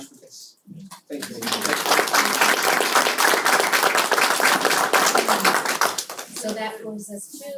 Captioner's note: applause